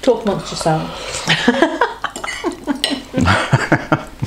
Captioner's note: laughs